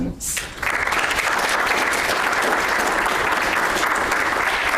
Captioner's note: audience applauds